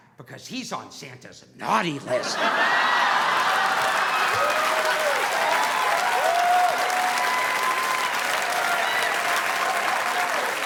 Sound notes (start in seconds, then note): 2.0 audience laughing; 2.4 audience applauding